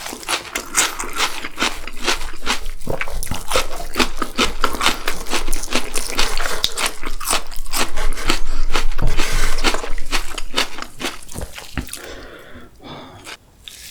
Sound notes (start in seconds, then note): 1.3 crisp crisp